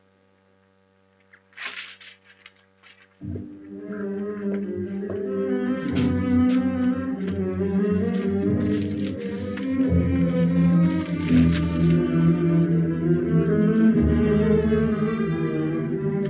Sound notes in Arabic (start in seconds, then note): 1.2 صوت الورقة; 5.5 موسيقى مشوقة